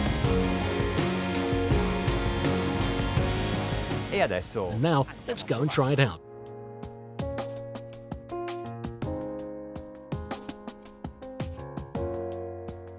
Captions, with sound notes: (speaks Italian) And now, lets go try it out. (light music)